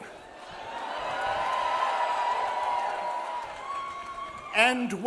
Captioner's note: audience cheers